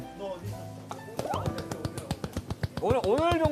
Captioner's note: applauding in pure happiness